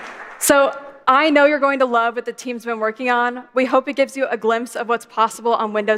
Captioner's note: applause